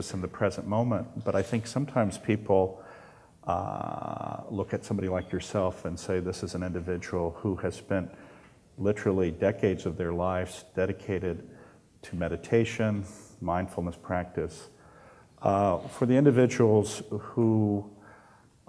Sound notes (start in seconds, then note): none